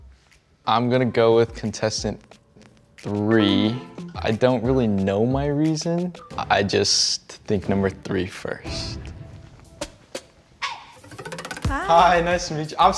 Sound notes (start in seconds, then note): 3.4 low tone chimes